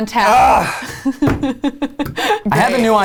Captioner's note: laughs